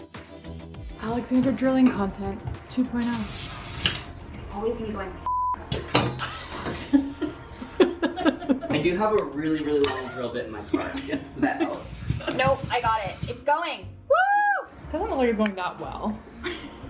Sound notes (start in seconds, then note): 5.2 beep; 6.2 both laughing; 16.4 laughing